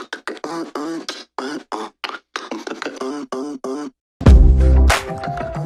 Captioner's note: beat box